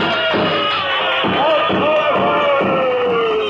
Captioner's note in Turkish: Fonda alkışlar, insanların çoşkulu bağırışları